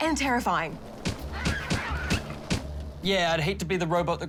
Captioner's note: falcon screeches